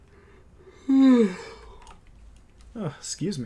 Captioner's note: big yawnny